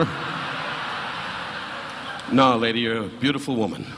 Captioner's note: audience laughing